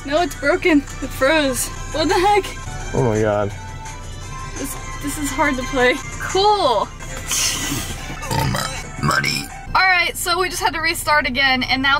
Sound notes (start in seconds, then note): 7.1 scoffs; 7.4 belching